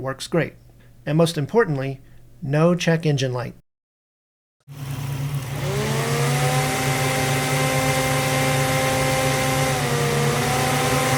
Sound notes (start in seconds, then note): 4.7 car engine running; 4.7 one fan running; 10.0 two fans running